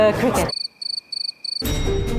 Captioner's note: crickets chirping; bell dings